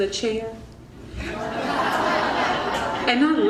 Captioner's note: crowd laughing